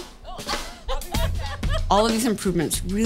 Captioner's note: laughing